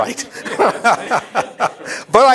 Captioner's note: laughter